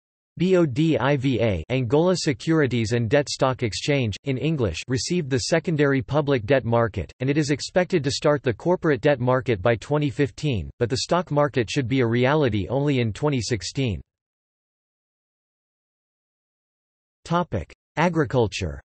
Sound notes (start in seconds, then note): 1.0 Angola Securities and Debt Stock Exchange, in English